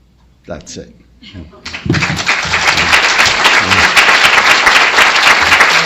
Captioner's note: applause